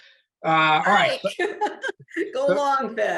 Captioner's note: laughter